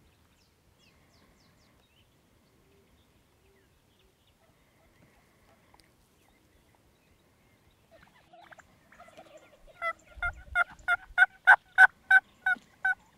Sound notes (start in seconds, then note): 7.9 turkeys cooing; 10.3 turkey calls